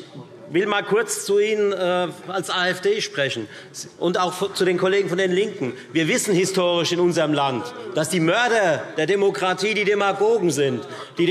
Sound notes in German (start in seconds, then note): none